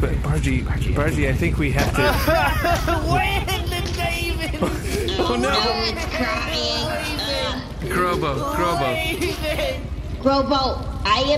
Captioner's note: sobbing